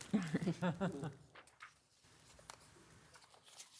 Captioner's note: laughing